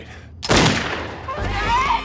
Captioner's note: gun fires